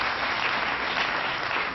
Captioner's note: applause